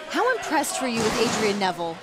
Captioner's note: fans chanting